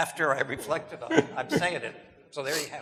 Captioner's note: laughing